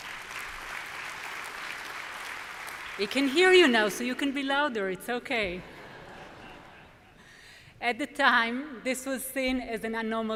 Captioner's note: applause